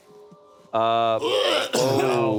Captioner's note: light music; Barney gagging